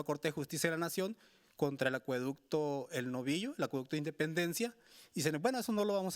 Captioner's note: speaking Spanish continues